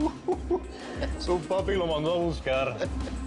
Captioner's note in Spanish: Risas